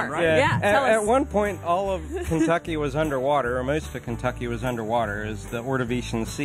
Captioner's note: laughter